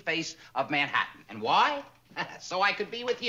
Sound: chuckles

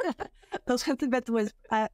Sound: laughter

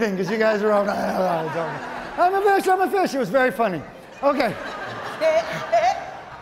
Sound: audience laughing

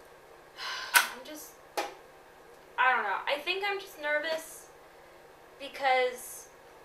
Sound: sighs

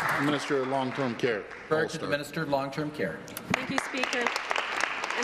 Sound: applause

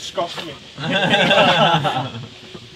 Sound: team laughing

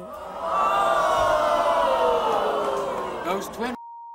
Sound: audience boos

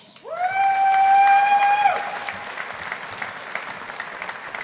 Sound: audience applauding

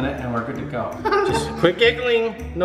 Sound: laughing

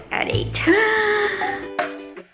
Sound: cheerful music; gasps

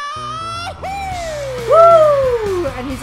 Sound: upbeat music; audience cheering

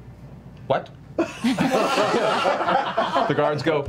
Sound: laughter

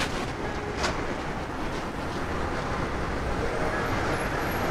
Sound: city ambience

